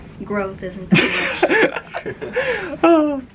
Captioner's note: lols